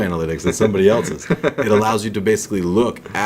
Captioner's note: laughs